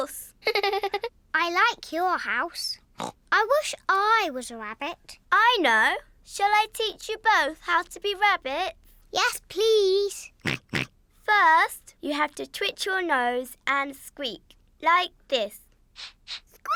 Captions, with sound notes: Of course. (GIGGLES) I like your house. (SNORTS) I wish I was a rabbit. I know. Shall I teach you both how to be rabbits? -Yes, please. -(SNORTS IN AGREEMENT) First, you have to twitch your nose and squeak, like this.